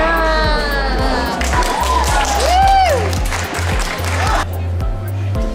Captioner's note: students cheering and clapping; bright music continues